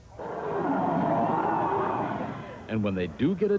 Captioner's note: growl